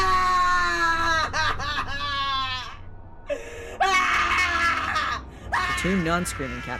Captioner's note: man screaming